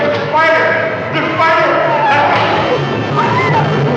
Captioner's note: screaming